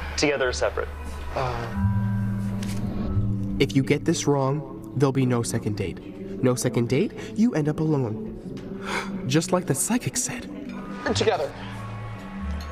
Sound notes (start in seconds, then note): 2.7 gasp